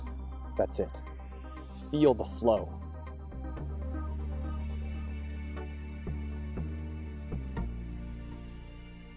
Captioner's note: airy voice: Luc, use the MetaPhorce